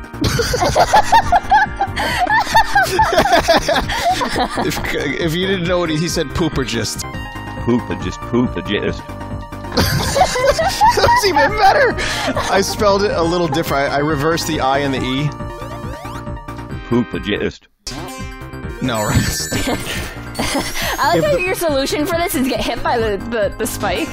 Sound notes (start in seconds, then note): 0.2 Vinny and Imakuni both laugh; 9.7 even more laughter; 19.0 laughing